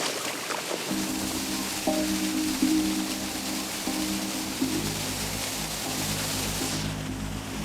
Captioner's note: water whooshing; gentle music